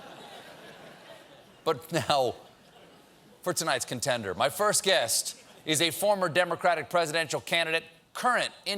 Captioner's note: laughter